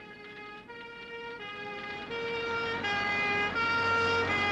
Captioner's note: emergency sirens blaring